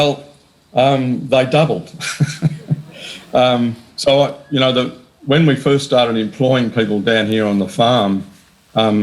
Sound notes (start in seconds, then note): 2.0 laughs